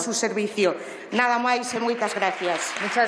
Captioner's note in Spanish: Aplausos